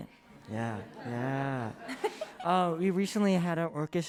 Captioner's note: crowd laughs